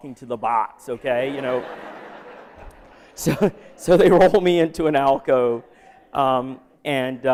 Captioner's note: laughter